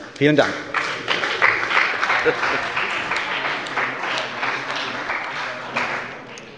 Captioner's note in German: Beifall bei dem BÜNDNIS 90/DIE GRÜNEN und der CDU